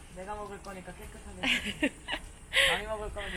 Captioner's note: laughter